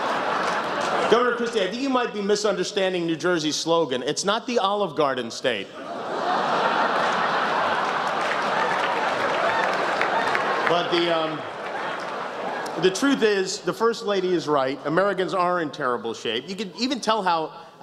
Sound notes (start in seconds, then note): 5.8 laughter, applause